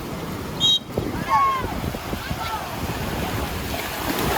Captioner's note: whistle blows